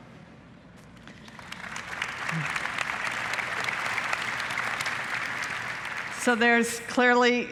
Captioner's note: applause